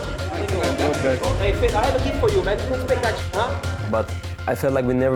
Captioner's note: people chattering indistinctly